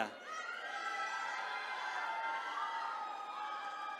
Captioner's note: attendees cheering